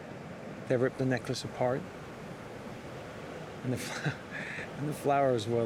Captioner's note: chuckles